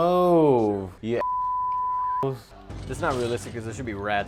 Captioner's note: beeping